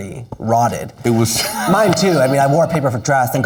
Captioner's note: laughing